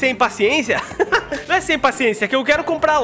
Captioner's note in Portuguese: risos